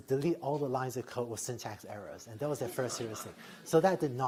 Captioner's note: laughter